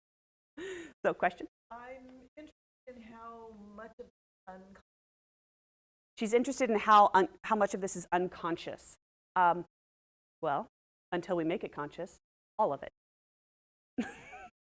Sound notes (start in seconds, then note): 1.3 laughs